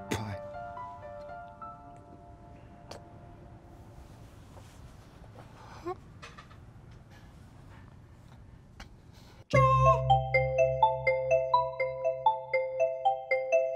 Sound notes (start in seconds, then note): 6.0 whimpering; 11.1 soft music